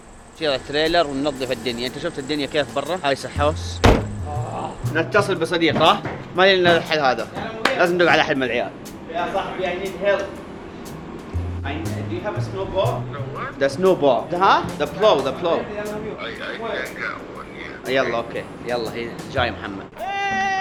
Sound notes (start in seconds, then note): 4.2 making uncomfortable noises